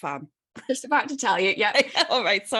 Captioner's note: laughter